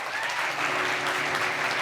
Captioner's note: applause